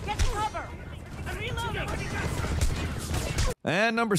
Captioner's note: gun thudding